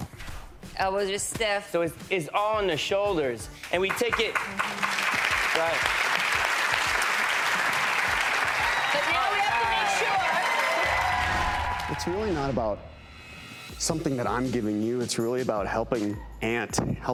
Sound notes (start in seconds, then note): 3.7 audience applauding